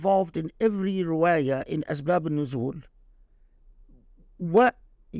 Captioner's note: speaking Arabic